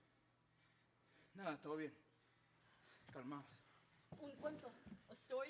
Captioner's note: speaking Spanish